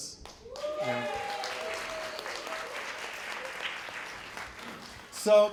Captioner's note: applause